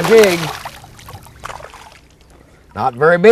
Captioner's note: splash